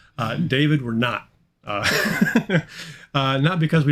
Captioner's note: chuckling